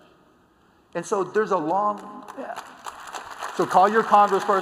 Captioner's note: applause